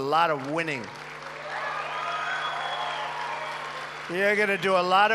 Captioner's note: applause